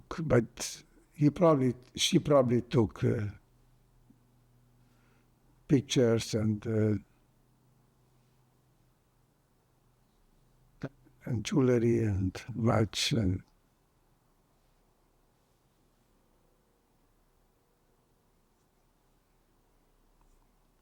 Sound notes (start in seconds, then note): 13.5 pauses 8 seconds